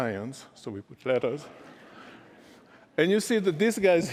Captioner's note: laughter